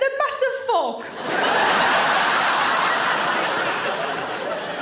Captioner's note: audience laughter